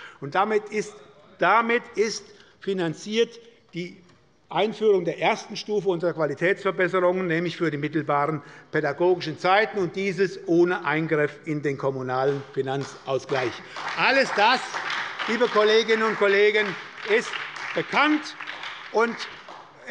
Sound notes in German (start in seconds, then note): 13.8 Beifall bei der SPD